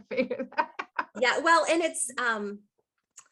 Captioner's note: laughing